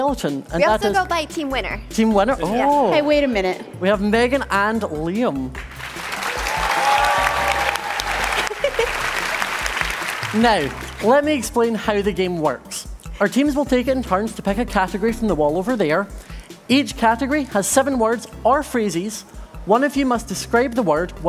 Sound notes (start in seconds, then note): 9.6 applause